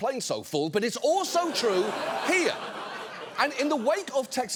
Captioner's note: studio audience laughing